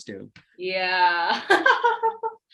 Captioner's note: laughs